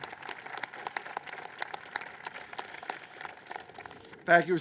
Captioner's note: applause